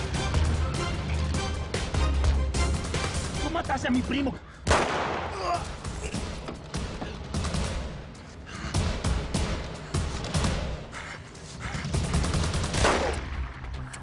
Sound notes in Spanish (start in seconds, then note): 4.6 Disparo; 5.3 Quejido; 12.4 Disparo